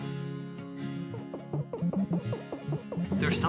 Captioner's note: beeping; video game beeping